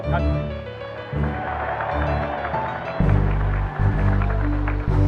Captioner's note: applause